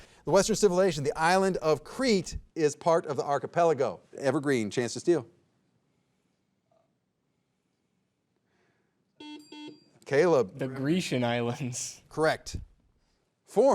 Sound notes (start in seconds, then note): 9.2 buzzer buzzing